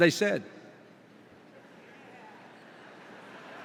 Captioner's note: laughter